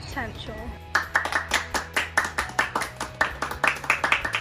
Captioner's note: all clapping